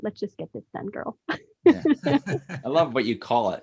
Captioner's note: laughs